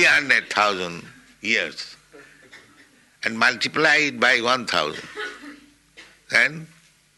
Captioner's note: laughter